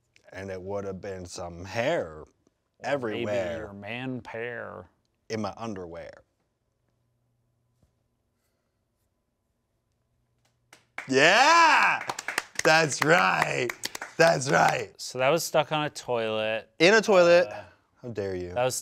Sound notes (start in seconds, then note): 10.7 group claps